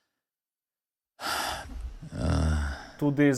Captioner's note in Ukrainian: стогне